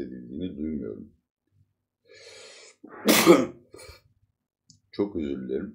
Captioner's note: sneezes